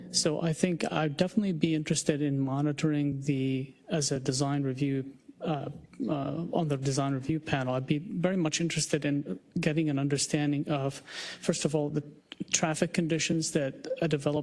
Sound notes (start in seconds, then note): none